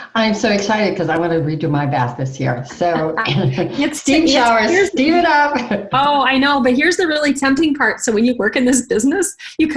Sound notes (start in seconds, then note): 5.3 laughs